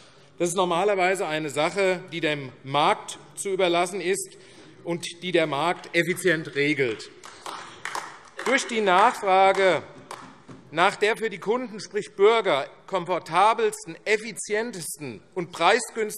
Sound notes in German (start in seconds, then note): 6.2 Beifall AfD